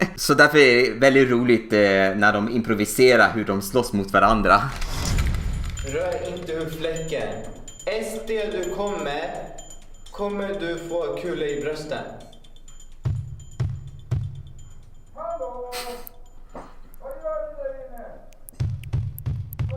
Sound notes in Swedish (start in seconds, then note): 12.8 bankar på dörren